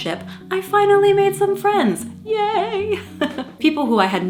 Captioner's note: laughing